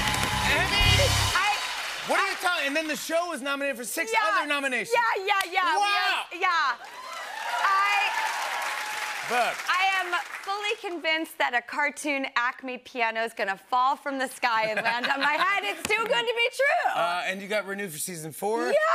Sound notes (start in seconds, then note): 6.7 cheers and applause